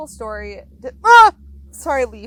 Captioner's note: screams